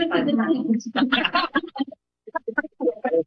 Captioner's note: laughter